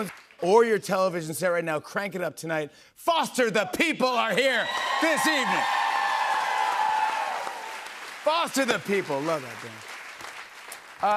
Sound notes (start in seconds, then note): 6.2 cheers and applause